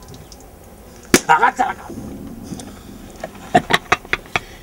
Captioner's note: laughs